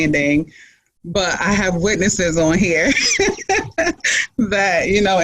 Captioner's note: laughs